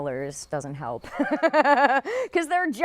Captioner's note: laughs